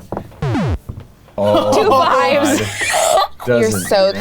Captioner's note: laughing